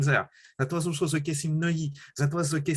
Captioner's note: french